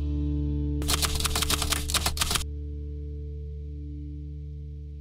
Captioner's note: typewriter clicking